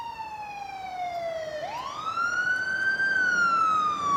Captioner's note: siren approaches